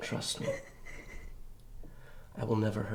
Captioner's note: Ashley sobs